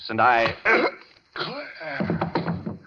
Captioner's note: grunts